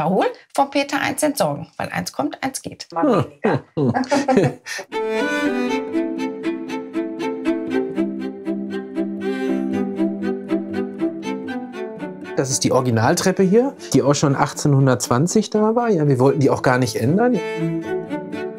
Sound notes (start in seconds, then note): 3.7 they laugh; 4.9 dreamy music